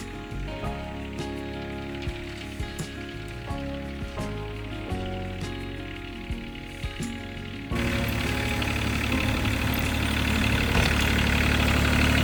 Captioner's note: engine revving